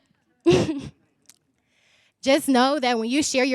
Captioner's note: chuckles